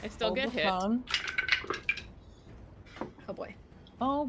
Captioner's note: dice rolls